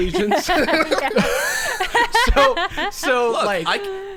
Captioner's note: players laughing